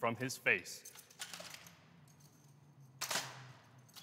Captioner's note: guns rattling